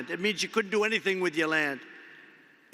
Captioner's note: none